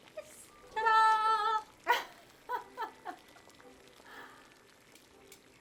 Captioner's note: Arlette laughing